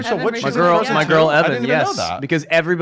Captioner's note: mumbles